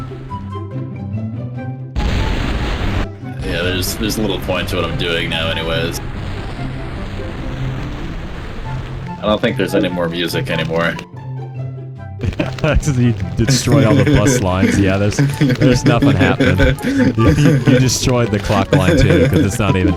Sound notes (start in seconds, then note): 12.5 laughing